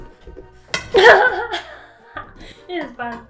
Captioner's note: laughter